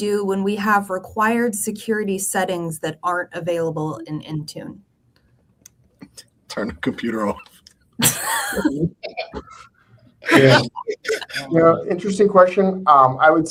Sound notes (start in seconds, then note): 8.7 group laughing